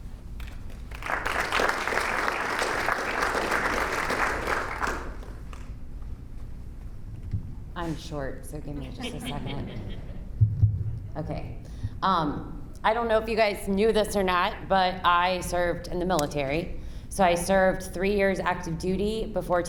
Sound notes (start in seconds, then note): 0.4 audience applauding; 8.8 audience laughing